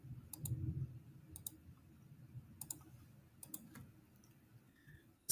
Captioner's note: mouse clicks